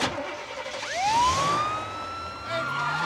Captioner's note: siren wailing